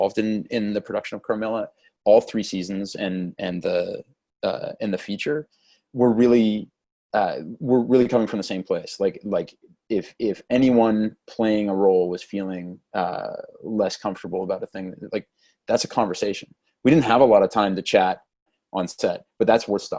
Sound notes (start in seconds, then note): none